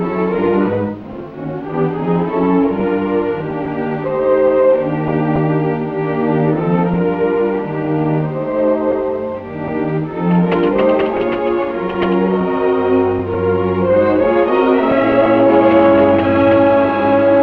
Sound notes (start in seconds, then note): 10.2 door rattling